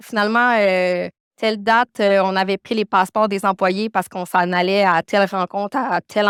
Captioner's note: continues speaking French